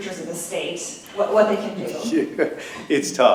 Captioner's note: laughter